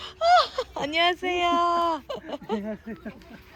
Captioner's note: laughs; speaking in Japanese; laughter